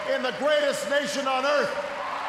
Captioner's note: cheers, applause